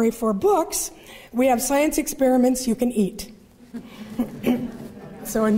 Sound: laughter

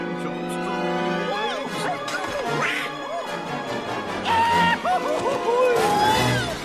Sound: the sound of three chaotic nerds falling from several stories high

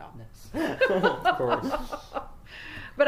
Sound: laugh

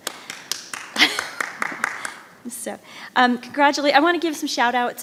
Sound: audience applauds

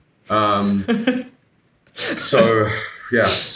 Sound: laughing

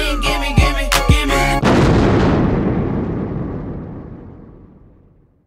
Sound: thunder crashes

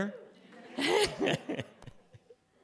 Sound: laughter

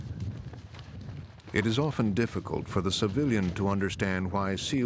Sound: voiceover

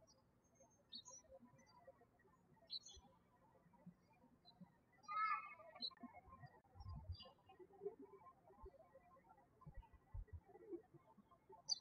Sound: birds chirping

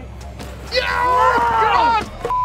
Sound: shouting

